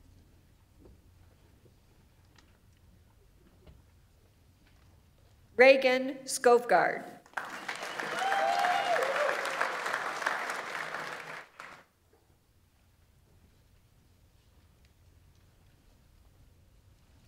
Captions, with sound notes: Reagan Skovgard. (audience applauds) (audience members cheer)